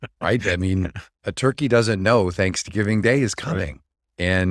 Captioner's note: laughs